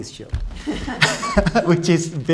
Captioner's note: laughs